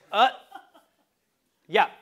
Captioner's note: laugh